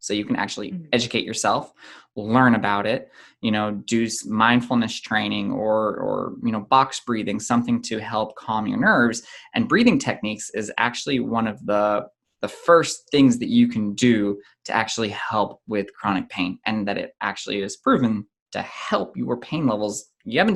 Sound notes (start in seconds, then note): none